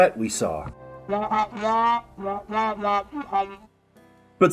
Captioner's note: nurse speaks in muted trombone